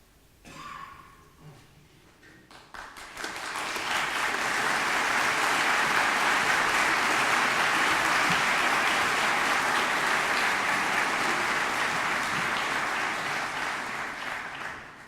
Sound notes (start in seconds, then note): 0.4 coughing; 2.9 audience applauding